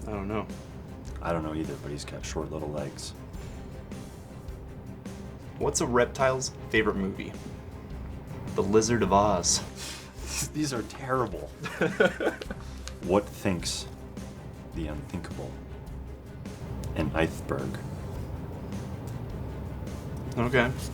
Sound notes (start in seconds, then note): 11.5 laughing